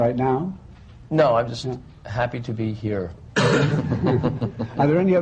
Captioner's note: laughter